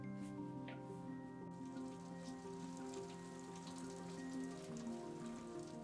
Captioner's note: rain pattering gently